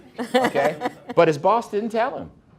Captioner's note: everyone laughing